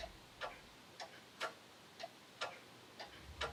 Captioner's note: clock ticking